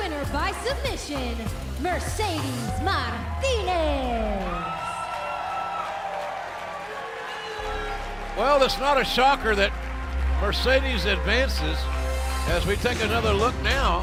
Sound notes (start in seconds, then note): 5.2 cheers and applause